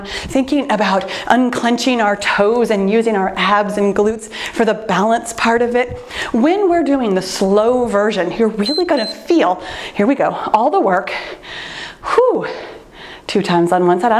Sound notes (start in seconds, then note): 8.6 timer beeps